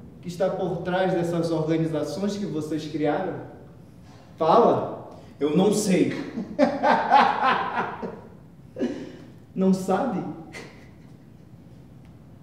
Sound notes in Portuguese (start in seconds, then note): 6.1 risos